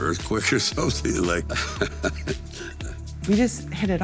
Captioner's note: Sylvester laughing